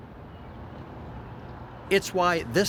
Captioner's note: birds chirping